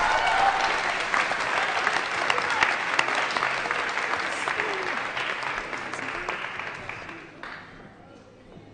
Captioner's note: applause